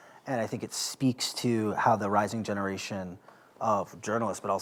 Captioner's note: none